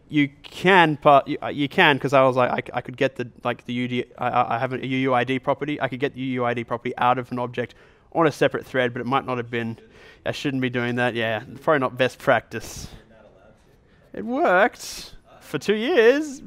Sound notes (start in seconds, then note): 13.1 voiceover